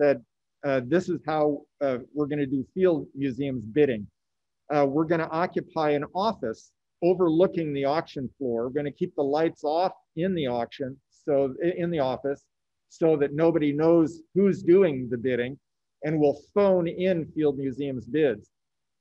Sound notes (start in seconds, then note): none